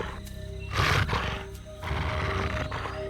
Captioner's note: snarling